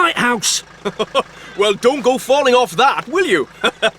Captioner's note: chuckling